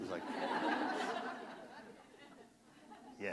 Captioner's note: laughter